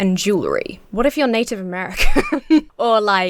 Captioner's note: laughs